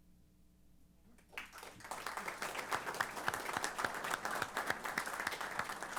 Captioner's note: applause